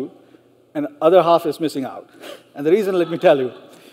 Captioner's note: laughs